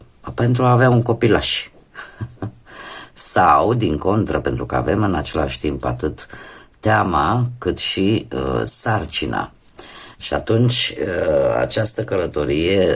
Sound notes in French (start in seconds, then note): 1.9 rires